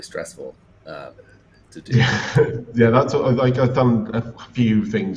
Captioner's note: laughs